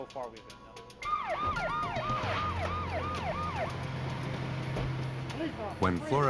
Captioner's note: sirens